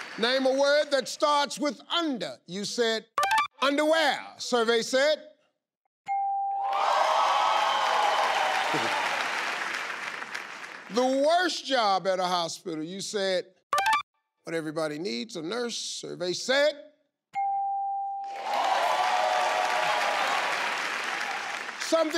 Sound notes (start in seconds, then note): 6.1 bell chimes; 6.7 audience applause; 17.4 bell chimes; 18.3 audience applause